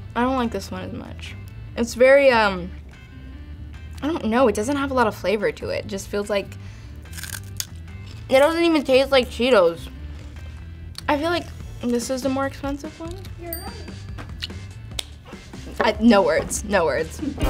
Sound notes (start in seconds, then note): 13.5 bell chimes